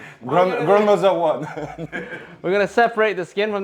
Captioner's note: laughs